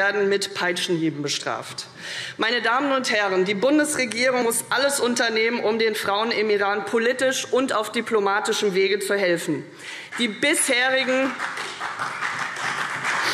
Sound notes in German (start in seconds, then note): 10.0 Beifall CDU, BÜNDNIS 90/DIE GRÜNEN und SPD